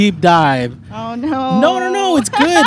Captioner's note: laughs